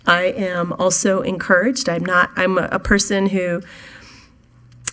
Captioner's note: none